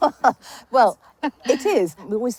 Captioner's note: laughs